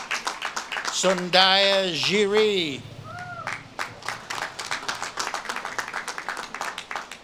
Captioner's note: audience claps and cheers